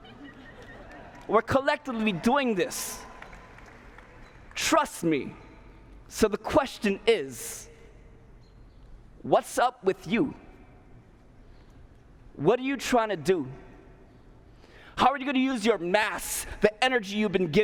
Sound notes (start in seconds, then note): 0.0 laughter; 3.0 cheers, applause